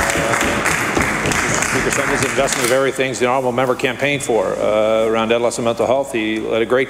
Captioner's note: applause